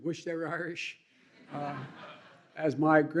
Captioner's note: laughter